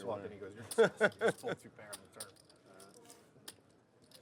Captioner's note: laughs